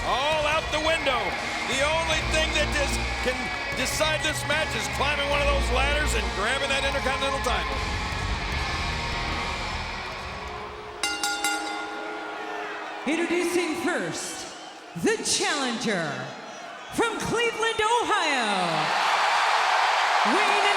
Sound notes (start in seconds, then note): 11.0 bell chimes; 18.6 audience cheering